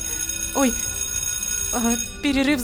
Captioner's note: break bell rings